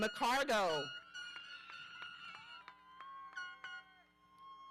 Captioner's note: horns blowing